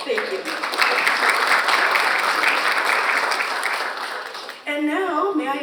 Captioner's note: audience applauds